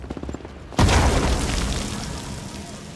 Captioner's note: explosion